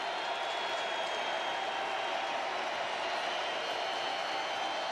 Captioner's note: crowd cheering